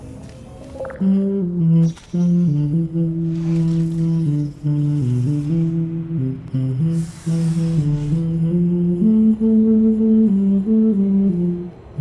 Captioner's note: humming " "